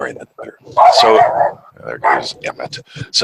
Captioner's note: Emmet barking